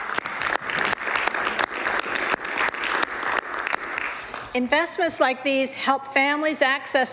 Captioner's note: some Applause